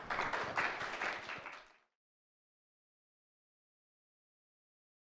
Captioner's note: audience applauding